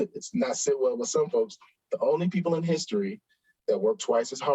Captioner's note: chuckles